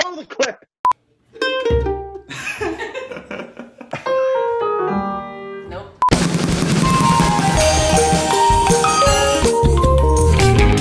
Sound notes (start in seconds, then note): 1.3 mandolin plays; 2.3 laughing; 6.1 rapid drumming; 10.5 blues music